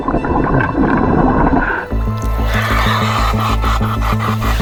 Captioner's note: water rumbling